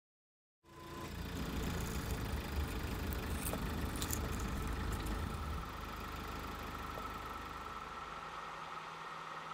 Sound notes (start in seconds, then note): 0.9 car engine running